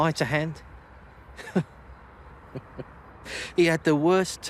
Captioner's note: he chuckles